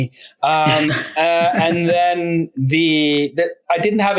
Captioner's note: laughing